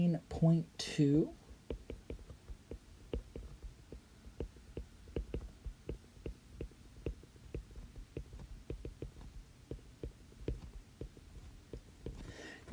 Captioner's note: writing